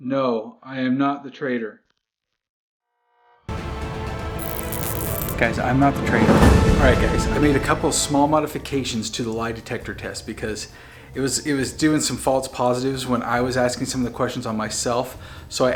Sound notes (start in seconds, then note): 4.3 detector buzzes